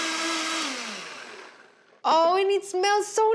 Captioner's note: blender in background